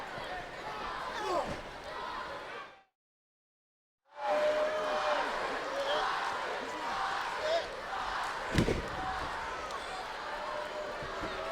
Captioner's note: crowd chatter